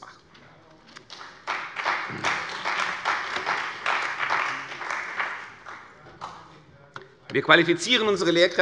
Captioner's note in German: Beifall bei der CDU und dem BÜNDNIS 90/DIE GRÜNEN